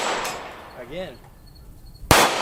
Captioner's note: gunshot